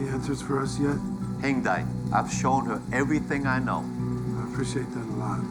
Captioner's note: speaks Mandarin